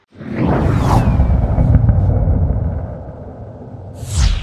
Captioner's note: air whooshing